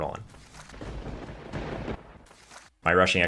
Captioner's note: thunder crashing